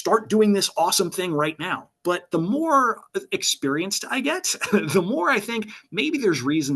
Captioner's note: laughs